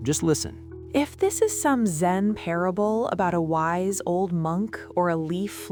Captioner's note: flatly, with absolute zero patience